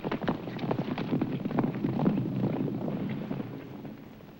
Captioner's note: horses galloping